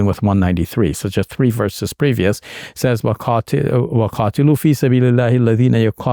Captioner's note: speaking in Arabic